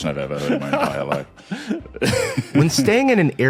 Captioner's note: chuckle